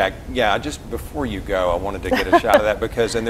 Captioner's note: laughs